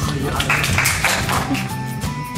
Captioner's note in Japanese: 拍手